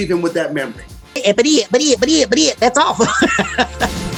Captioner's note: stuttering; laughing